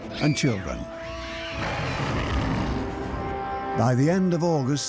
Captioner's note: girl screams and animal snarls